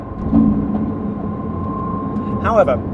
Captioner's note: engine revs quietly